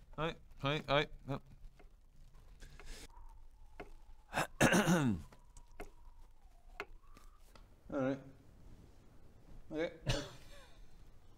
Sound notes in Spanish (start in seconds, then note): 2.4 silencio doloroso; 5.5 tic-tac del reloj